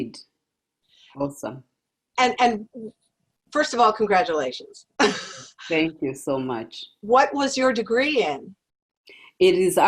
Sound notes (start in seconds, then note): 5.0 laugh